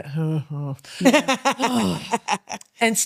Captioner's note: laughing